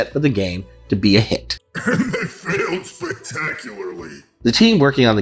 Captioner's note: laughing